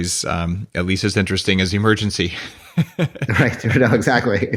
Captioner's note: laughs